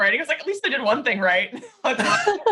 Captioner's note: laughs